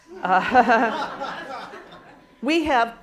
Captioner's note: laughter